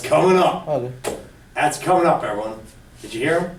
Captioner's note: voiceover